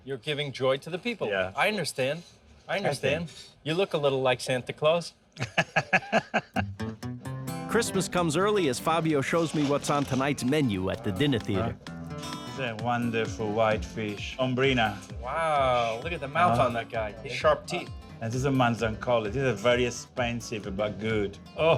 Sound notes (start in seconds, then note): 5.4 chuckling